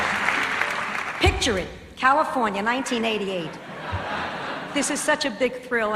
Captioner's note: laughs